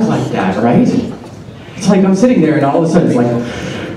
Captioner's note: labored Breathing